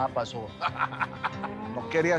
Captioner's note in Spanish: Risas